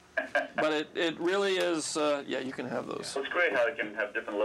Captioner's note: laughs